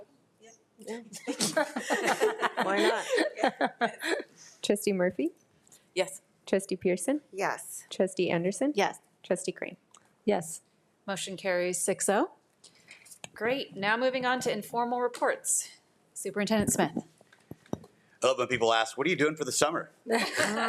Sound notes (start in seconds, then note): 1.1 all laughing; 20.1 all laughing